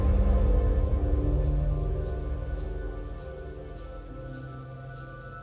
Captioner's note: gentle music; insects chirping and buzzing